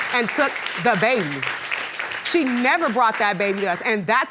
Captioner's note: audience applauding